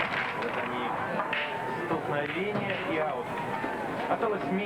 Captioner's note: knock